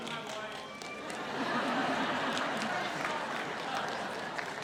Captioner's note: audience laughs